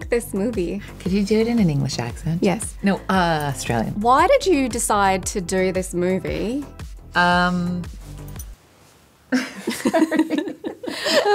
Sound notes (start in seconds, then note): 4.3 in australian accent; 9.3 laughter